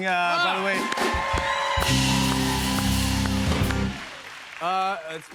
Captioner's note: cheers and applause